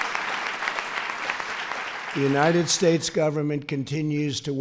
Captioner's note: applause